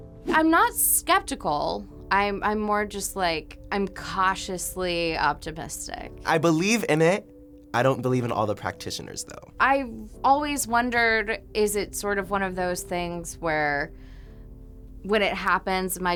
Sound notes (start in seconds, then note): none